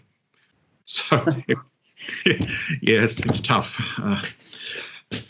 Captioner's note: laughs